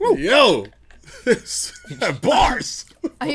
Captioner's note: laughs